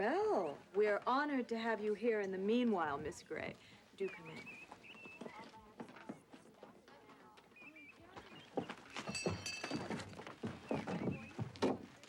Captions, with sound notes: - Well, we are honored to have you here in the meanwhile, Miss Gray. Do come in. (hooves clopping) (bell clangs)